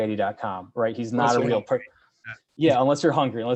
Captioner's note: mumbles